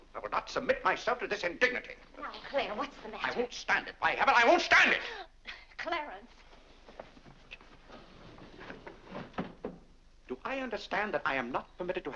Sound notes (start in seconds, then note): 7.9 doors slide shut